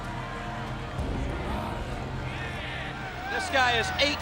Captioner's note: crowd cheering